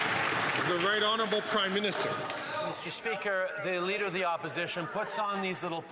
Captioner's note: some Applause